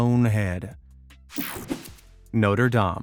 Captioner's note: image whipping effect